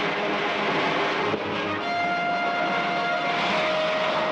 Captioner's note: rocket hissing